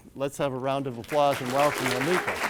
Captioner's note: audience claps